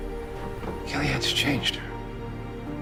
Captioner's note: voiceover